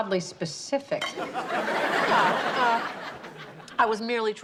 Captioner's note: audience laughs